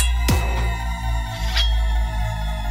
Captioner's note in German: Schwert wird gezogen